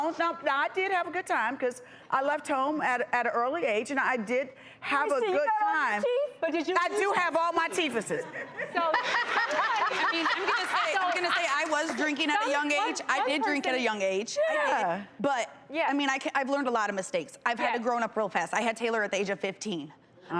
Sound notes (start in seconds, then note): 7.6 laughter